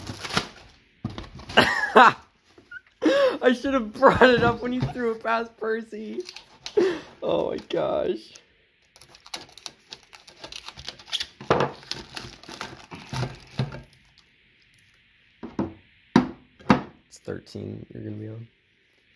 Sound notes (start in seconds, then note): 8.9 knife cutting plastic; 11.4 shred plastic noise here; 15.1 can clattering